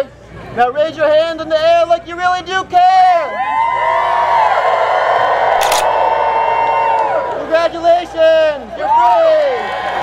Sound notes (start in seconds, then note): 3.2 crowd cheering; 5.5 camera flashes